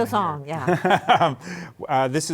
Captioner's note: laughs